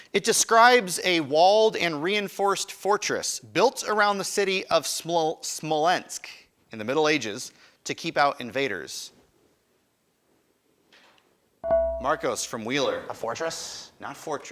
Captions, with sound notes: It describes a walled and reinforced fortress built around the city of Smolensk in the Middle Ages to keep out invaders. (buzzer chimes) Marcos from Wheeler. >> A fortress.